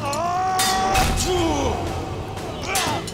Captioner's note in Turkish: Kılıç sesleri